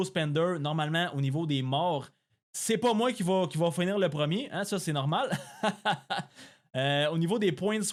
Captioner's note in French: rires